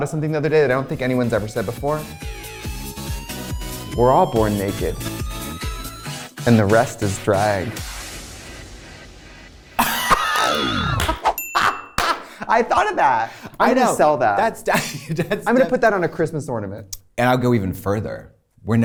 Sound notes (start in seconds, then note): 9.8 both laughing; 11.4 bell dings